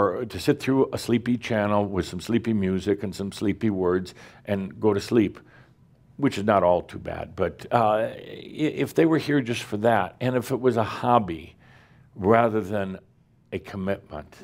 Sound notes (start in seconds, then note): none